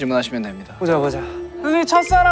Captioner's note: in a solemn tone